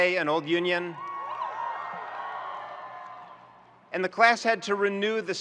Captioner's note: students cheering and applauding